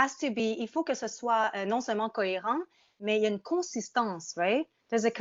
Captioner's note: speaking in French